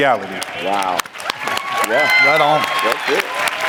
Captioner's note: applause